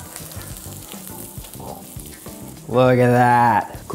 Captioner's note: sizzling